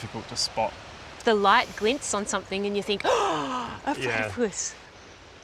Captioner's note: gasps